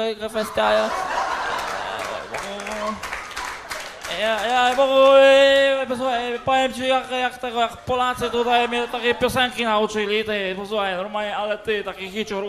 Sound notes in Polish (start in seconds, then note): 1.1 Aplauz